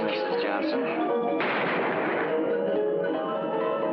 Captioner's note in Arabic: طلقة نارية; موسيقى الكرنفال